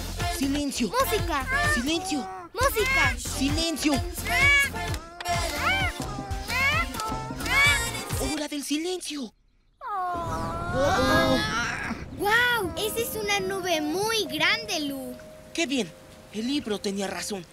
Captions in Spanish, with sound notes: -Silencio. -¡Música! -Silencio. -¡Música! ¡Silencio! Es hora del silencio. ¡Oh, oh! [Sonido de relámpagos] ¡Wow! Esa es una nube muy grande. Qué bien, el libro tenía razón.